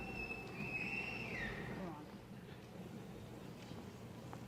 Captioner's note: chatter